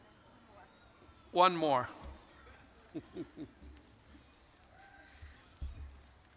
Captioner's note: chuckling